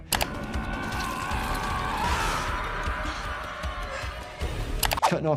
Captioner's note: character screaming